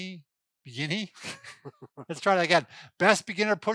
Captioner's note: laughing